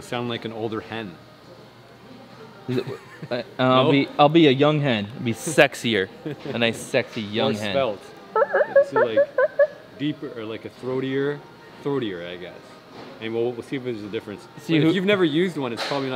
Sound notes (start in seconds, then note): 3.2 laughs; 8.3 mimics turkey call